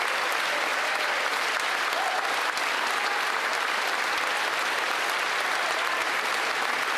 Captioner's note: cheering and Applause; applause